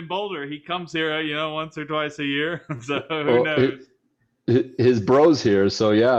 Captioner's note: laughs